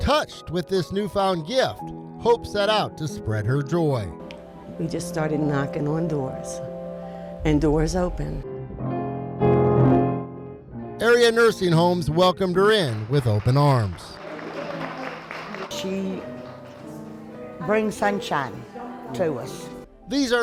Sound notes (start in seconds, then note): 8.0 lighthearted piano music; 14.3 attendees applauding